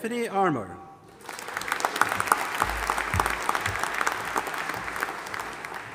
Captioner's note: audience applauding